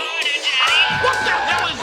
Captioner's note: moans; cheering